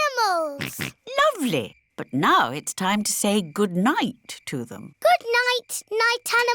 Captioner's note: snorts